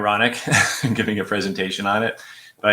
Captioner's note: laughter